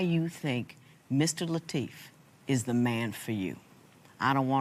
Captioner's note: none